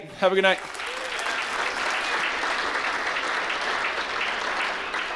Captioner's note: applause